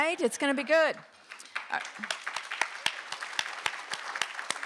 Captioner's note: applause